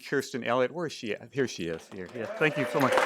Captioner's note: cheering and applause